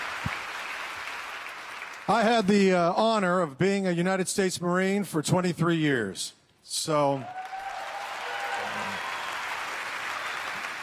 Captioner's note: applause